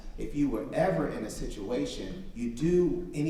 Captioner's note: none